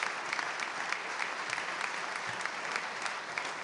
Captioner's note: applause